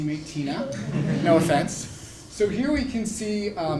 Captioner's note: laugh